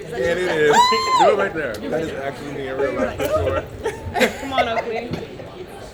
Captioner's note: indistinct chatter